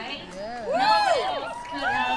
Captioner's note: cheers